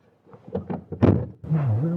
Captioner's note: door shuts